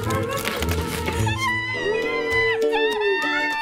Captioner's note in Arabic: هتاف